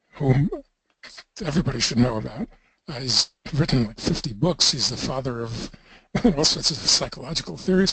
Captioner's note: laughter